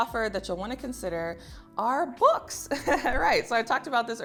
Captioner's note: laughs